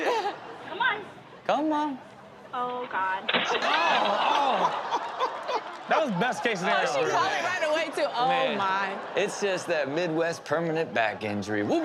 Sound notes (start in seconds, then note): 3.7 shouting